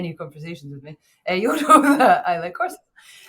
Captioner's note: chuckles